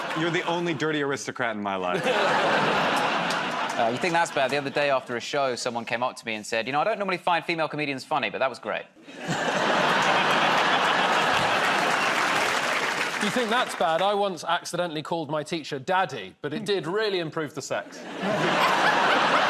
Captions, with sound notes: -Honey, you're the only dirty aristocrat in my life. -Oh, you think that's bad? The other day after a show, someone came up to me and said, "You know, I don't normally find female comedians funny, but that was great." [ Laughter ] -You think that's bad? I once accidentally called my teacher daddy, but it did really improve the sex.